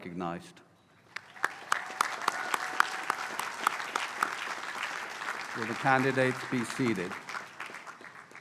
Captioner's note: applause